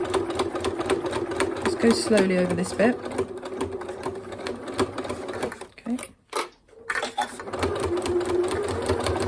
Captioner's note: sewing machine noise